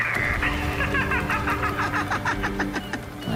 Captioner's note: laughs; off loudspeaker